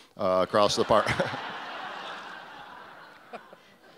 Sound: audience laughs

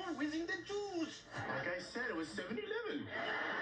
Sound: Indian accent

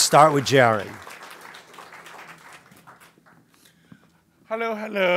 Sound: applause

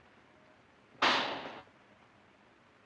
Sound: gunshot

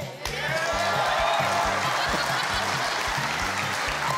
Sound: audience cheering

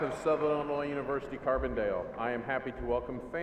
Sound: cheers and applause

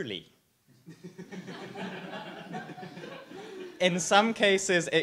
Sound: audience laughs

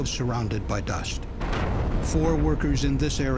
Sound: sound of explosion

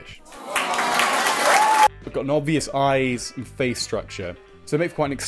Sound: applause

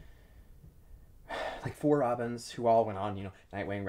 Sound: sighs

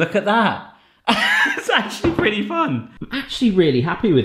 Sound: laughs

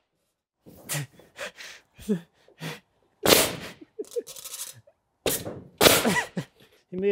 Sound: laughing; nail gun banging

